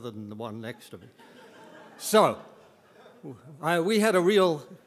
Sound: audience members laughing

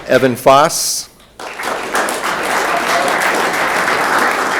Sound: room applauds

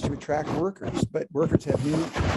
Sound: rasping interference drowns out speaker

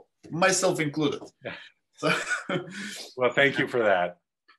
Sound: laugh

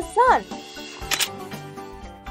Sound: camera click

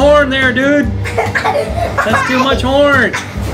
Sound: laughing

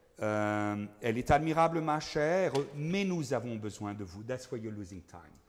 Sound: speaking in foreign language

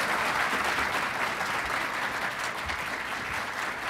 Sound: applause

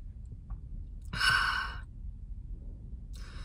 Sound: big sigh

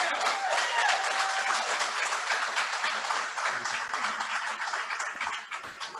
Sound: applause

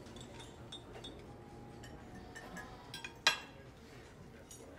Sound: silverware clinking

